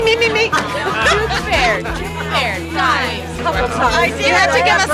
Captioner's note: laughing